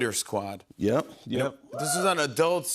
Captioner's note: audience member cheers